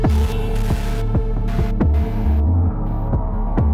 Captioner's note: static crackling